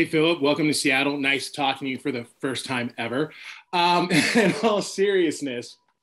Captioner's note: laughs